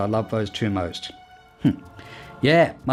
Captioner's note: tiny chuckle